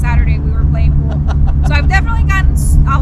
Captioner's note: laughs